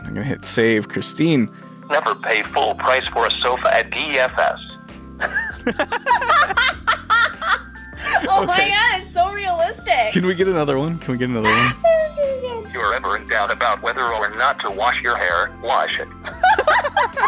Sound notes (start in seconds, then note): 2.3 computer Voice; 5.2 both laughing; 13.0 computer Voice